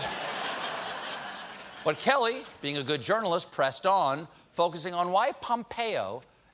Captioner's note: laughter